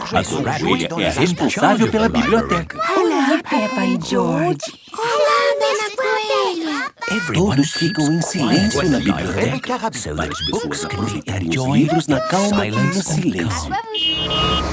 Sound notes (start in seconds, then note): 2.9 whispering